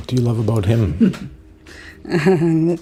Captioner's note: chuckles